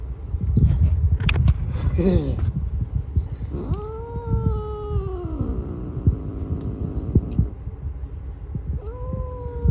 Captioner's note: growls